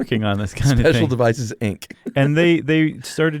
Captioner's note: chuckles